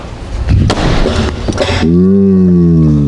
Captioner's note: punching in slow-motion